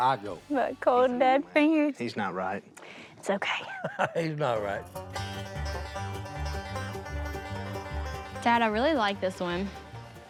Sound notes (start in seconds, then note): 3.6 laughs; 4.3 upbeat bluegrass music